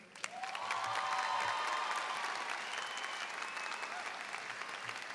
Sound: audience cheering and applauding

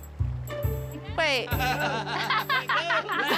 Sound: laughter

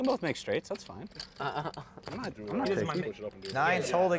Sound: chuckles

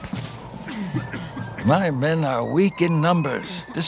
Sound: American accent

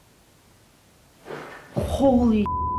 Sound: banging

